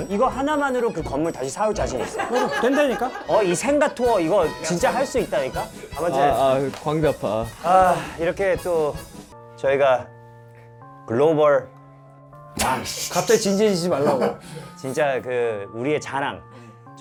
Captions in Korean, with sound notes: 이거 하나만으로 그 건물 다시 사올 자신 있어 된다니까? 어? 이 생가 투어 이거 진짜 할 수 있다니까? 아아... 광대 아파... 아 이렇게 또 저희가 글로벌... 왕 / (웃참실패) 갑자기 진지해지지 말라고 진짜 그 우리의 자랑